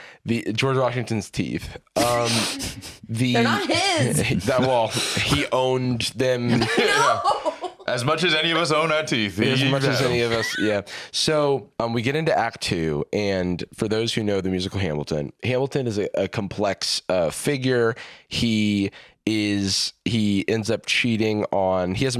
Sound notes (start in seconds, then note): 6.5 laughing